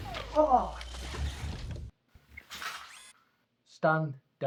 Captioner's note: Solent grunts; Kellogg's arm whirring